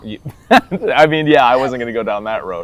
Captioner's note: laughing